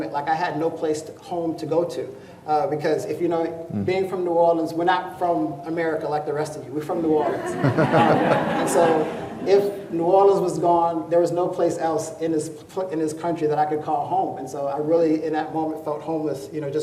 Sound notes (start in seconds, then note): 7.2 crowd laughing